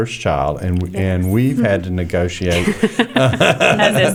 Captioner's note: laughter